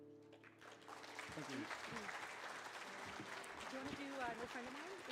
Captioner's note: audience clapping